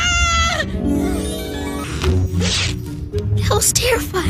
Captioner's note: twinkling